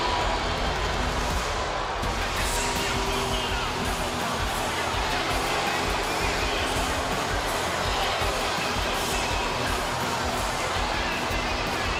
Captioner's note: crowd boos